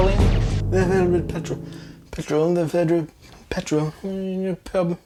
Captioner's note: trying to sound British